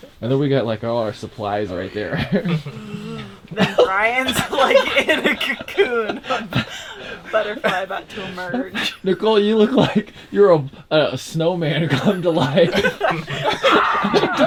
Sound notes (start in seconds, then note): 5.5 all laughing; 11.8 all laughing